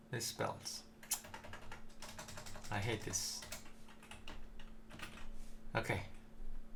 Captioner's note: typing